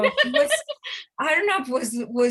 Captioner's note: laughing loudly